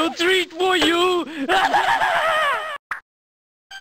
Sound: evil laugh

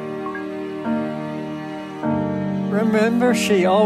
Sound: computer beeps

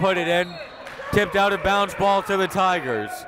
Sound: whistle

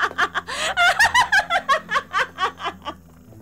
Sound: evil laughter

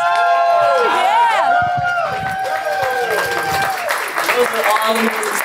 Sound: applause

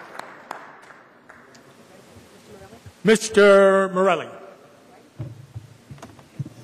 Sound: applause

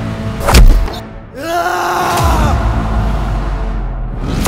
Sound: screams

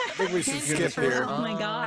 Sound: laughing

